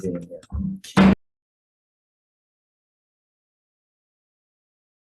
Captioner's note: gavel knocks